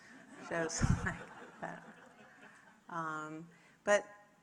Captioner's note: audience laughing